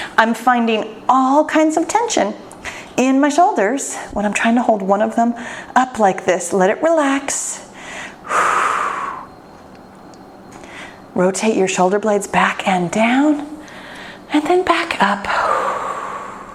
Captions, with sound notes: I'm finding all kinds of tension in my shoulders when I'm trying to hold one of them up like this. Let it relax. (loud exhale) Rotate your shoulder blades back and down and then back up.